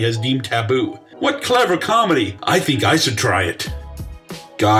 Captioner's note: sarcastically